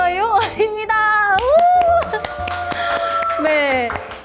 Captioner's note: enthusiastic applause